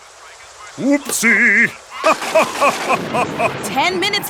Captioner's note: laughs